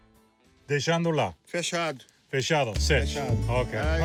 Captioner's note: both speaking Portuguese